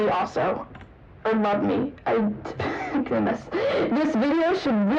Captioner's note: laughter